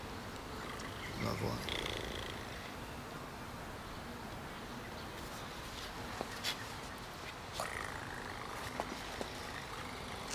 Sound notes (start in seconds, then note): 0.6 Laura purrs; 7.6 Laura purrs